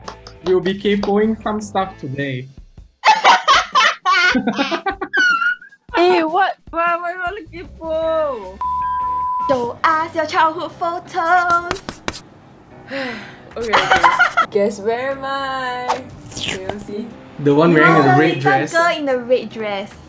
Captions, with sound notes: We'll be Kaypoh-ing some stuff today. (Evil Laughter) Eh what, what do you want to Kaypoh? Show us your childhood photos. (Sighs) Okay Okay. Guess where am I. Can you see? - The one wearing the red dress? - You’re the little girl in the red dress